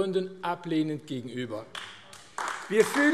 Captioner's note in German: Beifall AfD